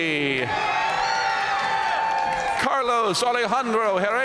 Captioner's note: audience cheering and applauding